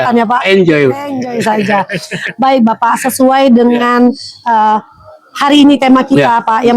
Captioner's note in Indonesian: tertawa